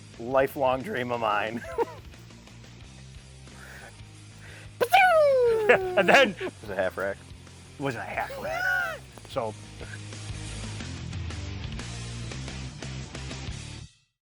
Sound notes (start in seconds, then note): 1.7 chuckling; 4.8 imitating a gunshot; 8.2 chuckling; 10.1 rock music